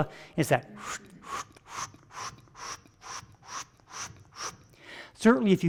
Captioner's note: vocalizing rapid whooshing